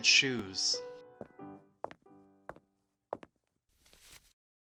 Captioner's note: footsteps